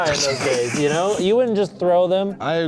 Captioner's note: laughing